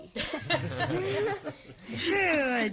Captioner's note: laughter